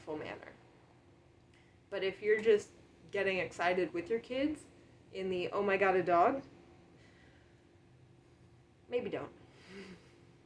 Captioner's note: long pause